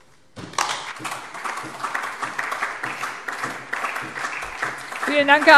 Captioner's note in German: Beifall DIE LINKE und SPD